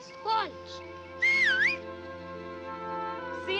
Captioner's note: Pat whistling